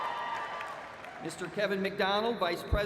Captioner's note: cheers and applause